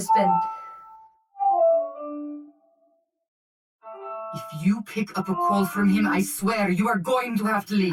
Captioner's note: the ring tone interrupts